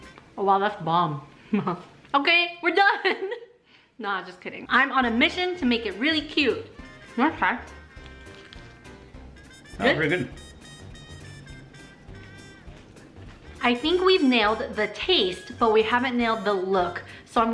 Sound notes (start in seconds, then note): 1.5 chuckles; 3.3 laughs